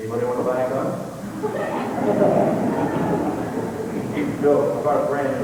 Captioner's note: laughter